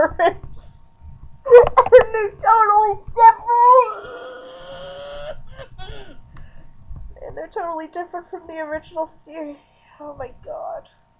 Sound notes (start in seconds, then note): 0.0 laughing; 3.5 muffled screaming